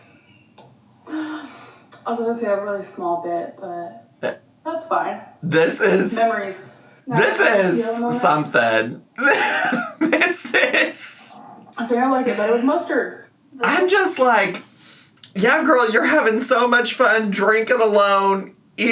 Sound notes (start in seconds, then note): 0.1 laughs; 9.2 laughs